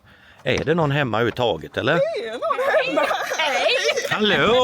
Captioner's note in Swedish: skratt